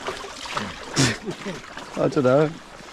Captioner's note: laughs